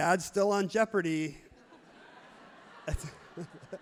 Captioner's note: everyone laughs happily